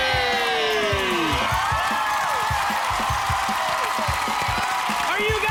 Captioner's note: cheers and applause